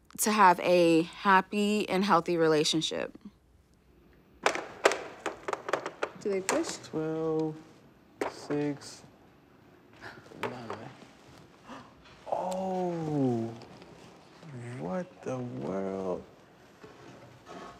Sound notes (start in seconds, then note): 10.0 gasp; 11.6 gasp